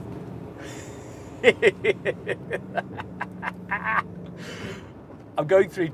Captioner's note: he laughs